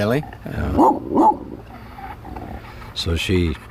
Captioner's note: dog barking